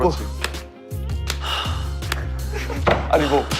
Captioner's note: slap